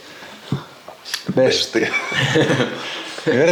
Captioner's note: laughter